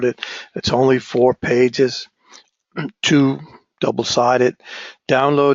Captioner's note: cough